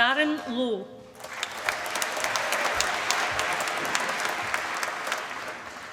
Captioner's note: applause